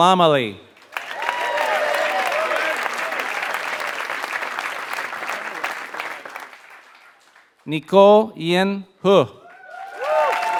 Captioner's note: applause; applause